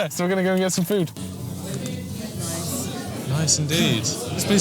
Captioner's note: background chatter